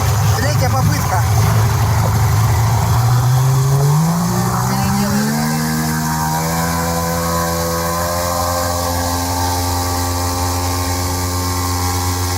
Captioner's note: engine sounds